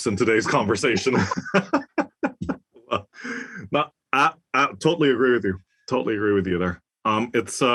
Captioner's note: laugh